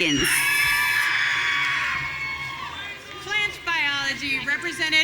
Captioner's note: audience cheering